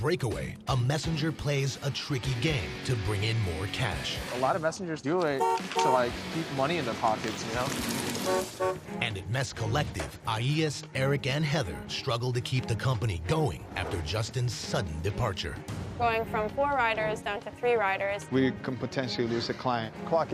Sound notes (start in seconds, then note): 8.2 car horn honks